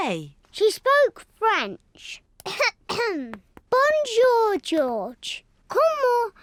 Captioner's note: coughs